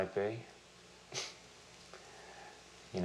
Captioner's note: chuckles